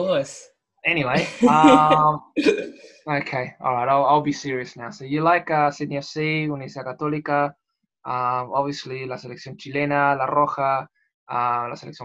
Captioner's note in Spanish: Risas